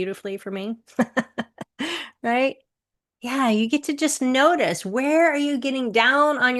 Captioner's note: chuckles